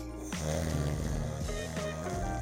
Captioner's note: snoring; light music fading out